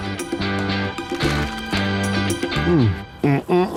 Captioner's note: sandwich crunching